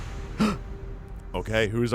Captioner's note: gasps